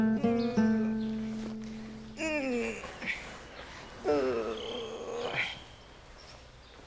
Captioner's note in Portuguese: Gemidos de esforço